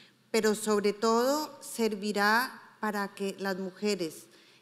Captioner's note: speaking in foreign language